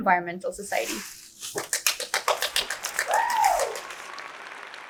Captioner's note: audience cheers